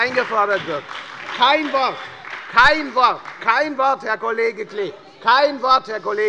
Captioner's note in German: Beifall bei der FDP und der SPD - Zurufe von der CDU